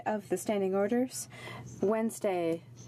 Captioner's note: speaking french